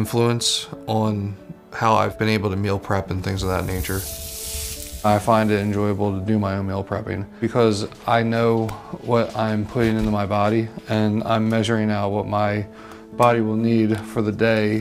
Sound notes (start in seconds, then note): 3.3 pan sizzling